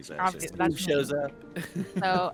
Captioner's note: laughs